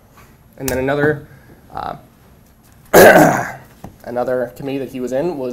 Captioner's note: clears throat